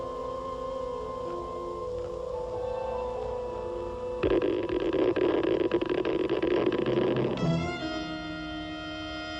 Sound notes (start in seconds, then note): 4.1 geiger counter ticks